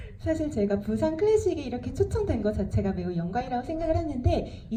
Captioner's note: speaks in foreign language